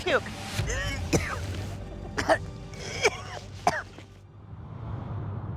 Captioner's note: retching